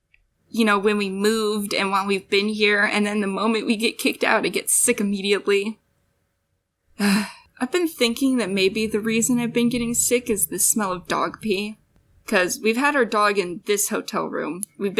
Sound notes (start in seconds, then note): 7.0 sigh